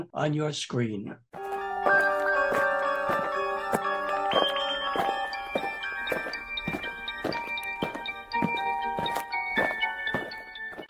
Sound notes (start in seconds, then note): 1.4 eerie music; 5.8 aliens marching